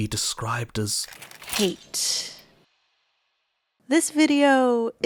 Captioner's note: breaking Glass